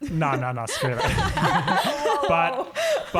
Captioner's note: laughing